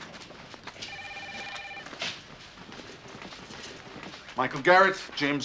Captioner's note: telephone ringing